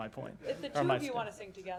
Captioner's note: laughter